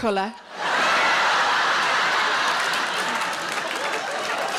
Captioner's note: audience laughs